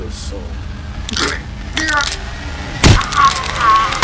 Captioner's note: grunting